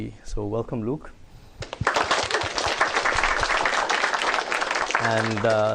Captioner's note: applause